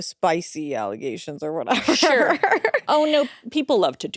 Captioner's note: laughs